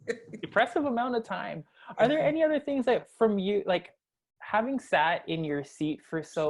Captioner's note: laugh